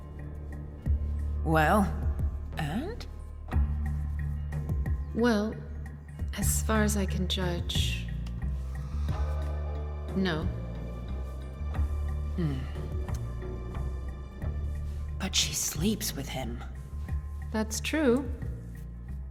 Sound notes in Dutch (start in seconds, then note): 13.0 klikt met tong